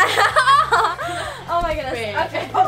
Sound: laughter

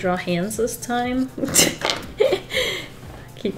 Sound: laughs

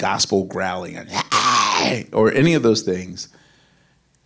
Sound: growls

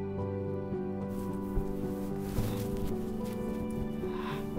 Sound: fabric rustling

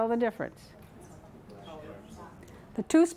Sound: crowd mumbling

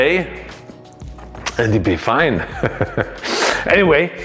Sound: laughs

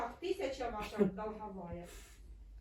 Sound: laughs

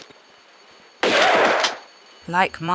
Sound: bam

